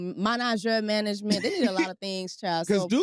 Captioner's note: chuckles